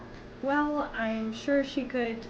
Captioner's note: none